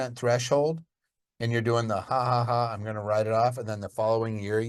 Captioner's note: laughs